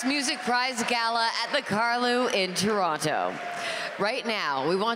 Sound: cheers and applause

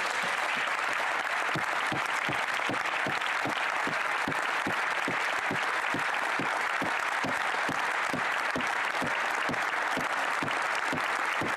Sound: applause

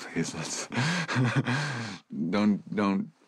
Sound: chuckles

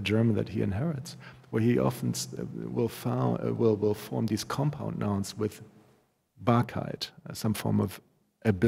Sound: german

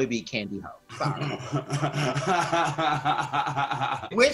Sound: laughs

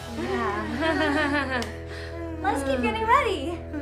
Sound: group chuckles

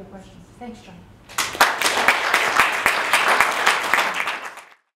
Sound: applause

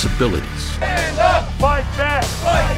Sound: crowd

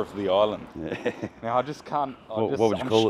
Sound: laughing

